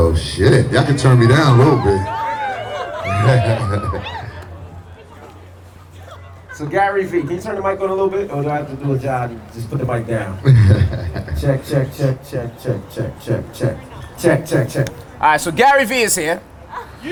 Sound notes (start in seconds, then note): 2.8 chuckles; 9.7 laughs